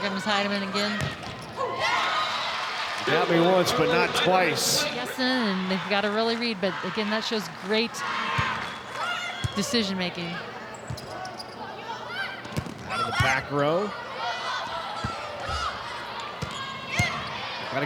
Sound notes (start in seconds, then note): 2.1 audience cheering; 12.5 ball thumping; 13.9 players shouting indistinctly